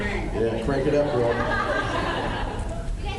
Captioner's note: laughs